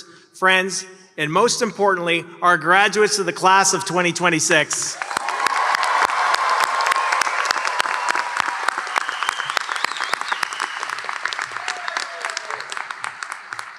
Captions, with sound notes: friends and most importantly, our graduates of the class of 2026. [Applause and cheers]